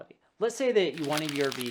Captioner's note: paper rubbing